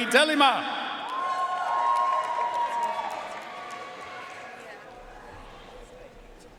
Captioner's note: audience cheering and applauding